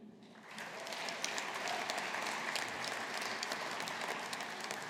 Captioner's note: audience applauding